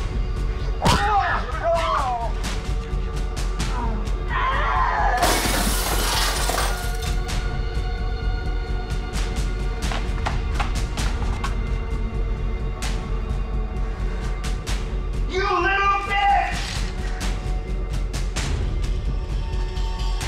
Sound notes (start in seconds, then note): 0.9 Dave yells; 1.0 knee bangs; 3.0 suspenseful music; 4.9 Liz yells; 5.2 glass breaks; 7.5 suspenseful music; 17.1 suspenseful music